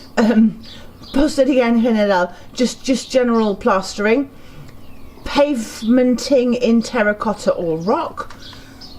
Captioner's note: foreign